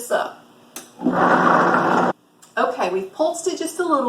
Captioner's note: mechanical whirring